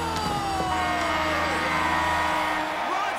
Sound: cheering; buzzer

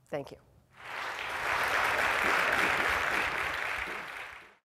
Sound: applause

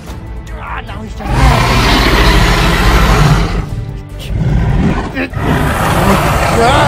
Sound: albertosaurus roaring

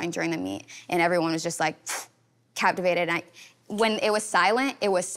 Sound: blowing lightly

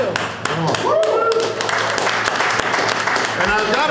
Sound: crowd cheering

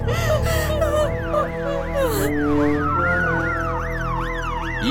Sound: ambulance siren; siren

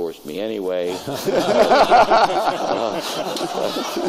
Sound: laughter

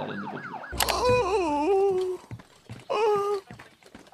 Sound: Pops groaning

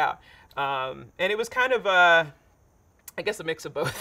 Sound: laughing

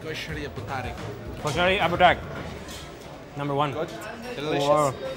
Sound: speaking in foreign language

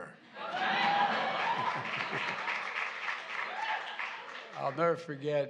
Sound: laughter and applause

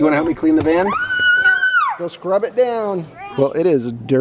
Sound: child yells

